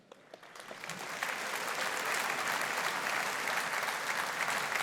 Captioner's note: audience applauding